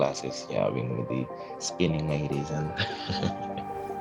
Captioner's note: laughs